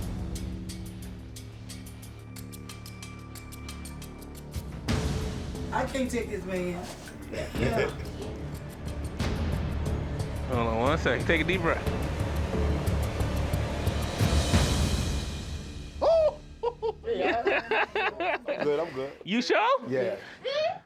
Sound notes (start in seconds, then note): 0.0 ominous music; 7.0 laughs; 16.6 laughs